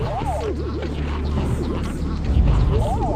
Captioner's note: Sonically unpleasant sounds of Ants comitting arson🔥